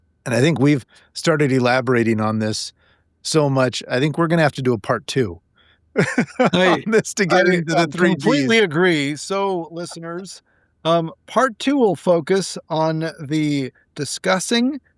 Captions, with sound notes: And I think we've started elaborating on this so much. I think we're going to have to do a part two (laughing) of this to get into the three D's. I completely agree. So, listeners, part two will focus on the discussing